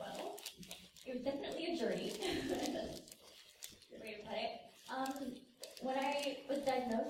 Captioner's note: laughs